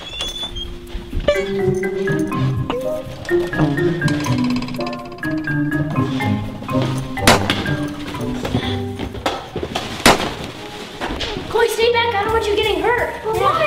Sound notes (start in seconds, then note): 0.0 door squeaking; 2.2 curious music; 9.8 popping